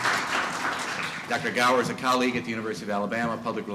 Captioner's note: applause